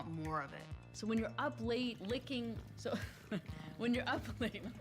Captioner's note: laughter